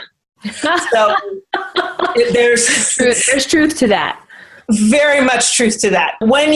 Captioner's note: they all laugh